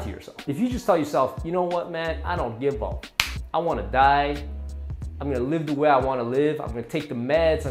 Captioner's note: smack sound